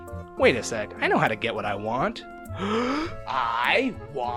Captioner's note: big inhale